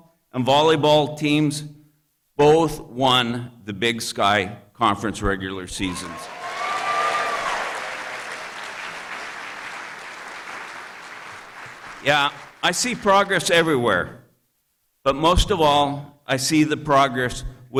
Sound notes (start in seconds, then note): 6.1 applause